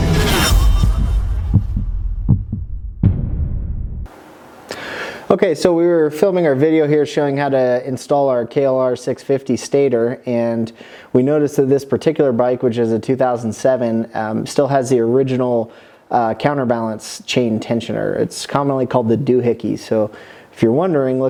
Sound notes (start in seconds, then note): 0.6 heartbeat